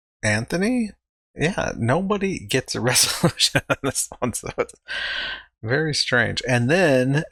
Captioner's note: chuckling